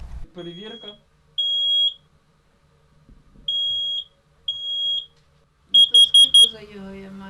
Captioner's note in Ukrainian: Лунає сигнал